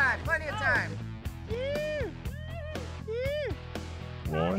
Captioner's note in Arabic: هتاف